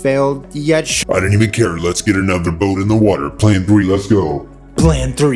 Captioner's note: scary voice